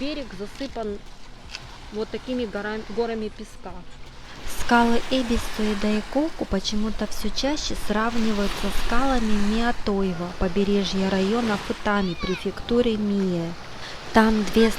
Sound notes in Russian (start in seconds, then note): 4.5 закадровый голос